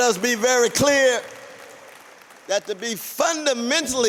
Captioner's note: applause